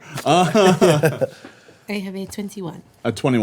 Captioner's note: laughing